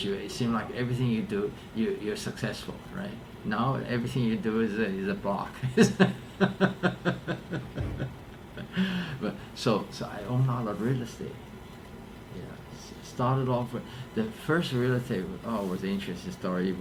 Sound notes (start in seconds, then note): 6.4 laughs